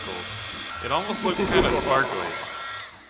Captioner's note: evil laugh